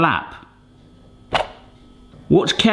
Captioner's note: pop